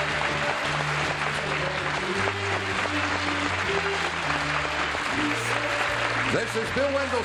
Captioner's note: applause